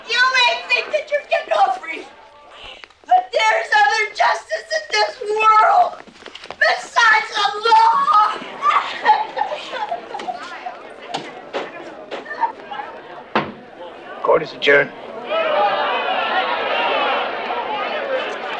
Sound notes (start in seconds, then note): 8.6 Mrs. Ritter sobbing; 8.7 courtroom chattering; 15.4 courtroom muttering